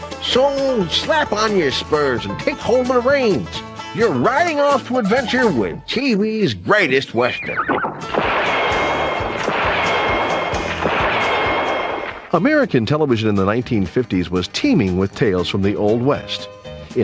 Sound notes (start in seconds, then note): 7.3 horse neighing; 8.0 gun firing